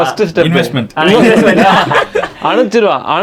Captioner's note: group laughs